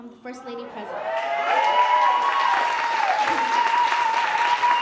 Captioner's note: audience cheering